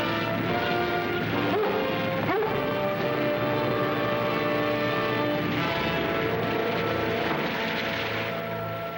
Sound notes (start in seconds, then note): 1.4 dogs barking